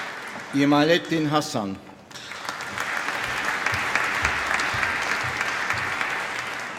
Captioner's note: applause